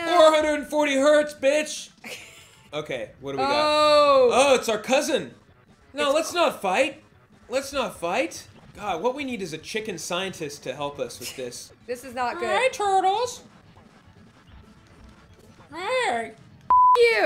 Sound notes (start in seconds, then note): 13.4 chicken voice